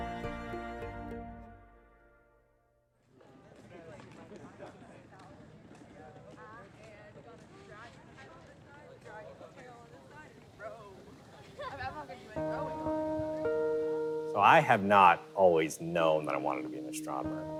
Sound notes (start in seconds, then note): 3.5 people chattering indistinctly; 12.3 gentle music